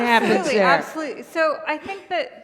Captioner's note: laughter